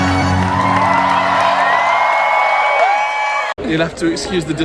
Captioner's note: crowd cheers